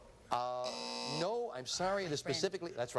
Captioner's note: buzzer